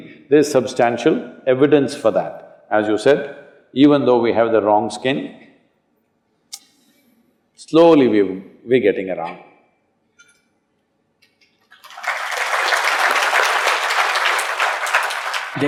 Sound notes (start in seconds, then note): 11.7 applause